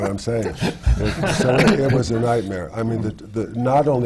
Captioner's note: laughter